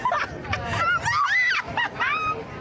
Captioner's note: laughing